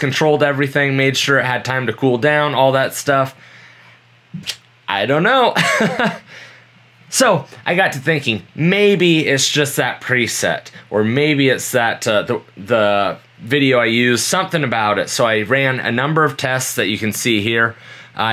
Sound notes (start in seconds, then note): 5.6 laughing